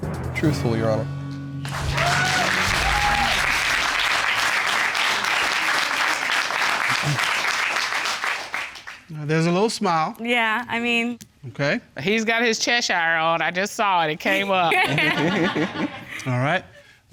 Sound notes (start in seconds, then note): 1.6 audience cheers and applauds